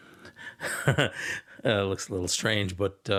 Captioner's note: chuckling